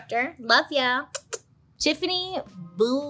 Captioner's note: puckering lips